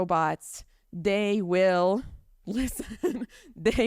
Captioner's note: chuckles